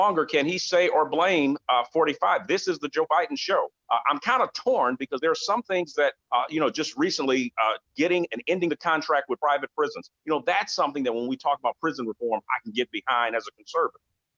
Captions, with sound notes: And I think that we have to understand that there are still a lot of unhappy and dissatisfied people, both with the election as with the decisions that are starting to come out of the White House. And I don't think that those things can (distorted audio) Are gonna truly try to find some common ground, we have to address those issues.